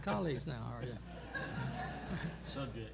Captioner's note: laughter